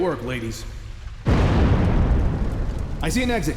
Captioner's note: explosion